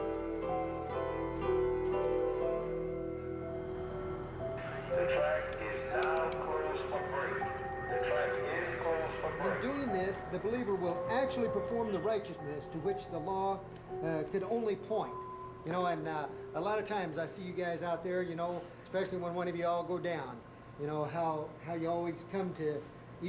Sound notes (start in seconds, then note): 4.1 bell ringiXEng